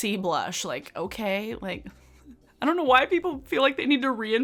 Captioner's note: giggles